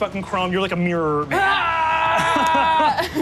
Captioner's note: screams; laughs